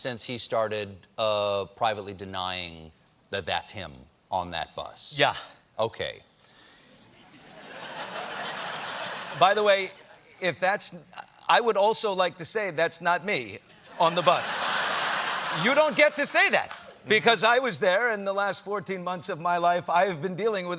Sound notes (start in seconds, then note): 10.8 laughter